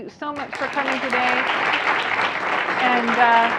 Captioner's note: audience applauds